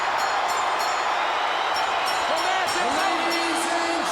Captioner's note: bell rings